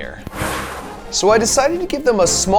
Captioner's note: person exhaling